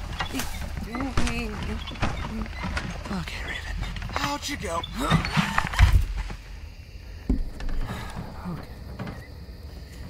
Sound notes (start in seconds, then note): 5.0 grunt; 5.6 gasp/thud; 8.0 sigh